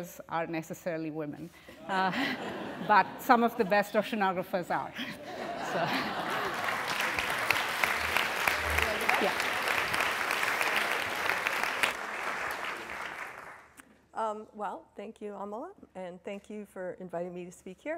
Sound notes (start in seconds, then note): 5.2 laughter and applause